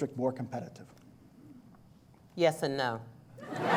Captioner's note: laughter